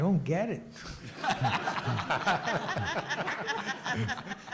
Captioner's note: audience laughs